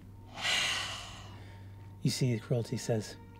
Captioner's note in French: soupire